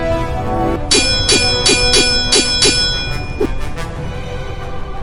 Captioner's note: swords clanging